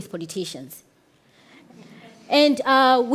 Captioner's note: audience laughs